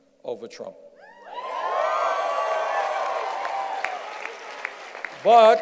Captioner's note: cheers and applause